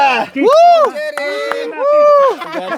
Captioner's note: applause